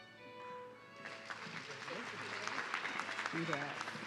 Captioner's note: audience clapping